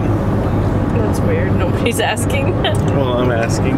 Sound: chuckling

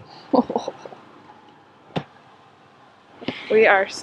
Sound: chuckling

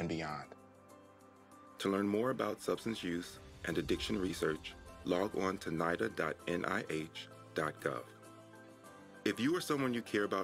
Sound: voiceover

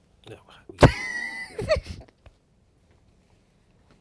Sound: laughs

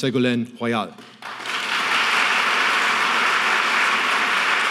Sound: audience clapping

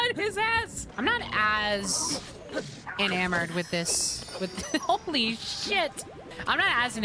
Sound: laughter

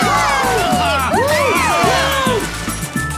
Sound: splash

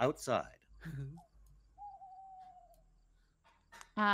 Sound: owl hooting

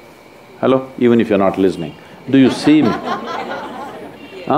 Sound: laughter

